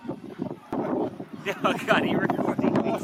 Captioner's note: laughter